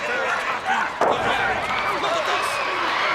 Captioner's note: blows thudding; body thudding